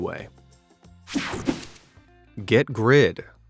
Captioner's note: whooshing sound